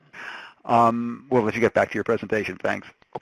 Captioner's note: voiceover